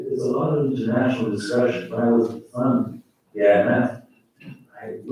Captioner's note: faintly speaking